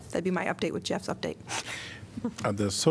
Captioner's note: laughter